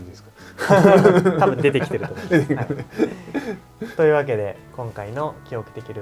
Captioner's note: laughs